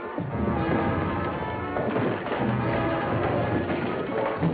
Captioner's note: furniture clattering